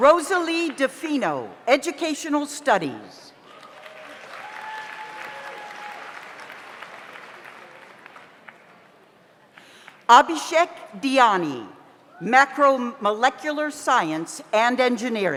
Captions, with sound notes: Rosalie Defino, Educational Studies. (audience applauds) (audience cheers) Abishek Diani, Macro Molecular Science and Engineering.